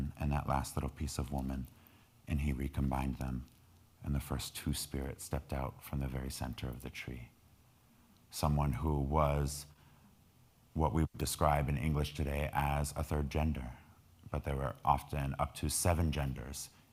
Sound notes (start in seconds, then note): none